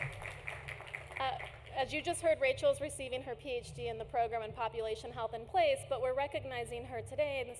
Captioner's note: applause